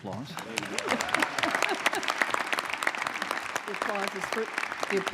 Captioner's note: applause